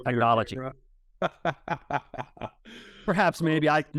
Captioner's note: chuckles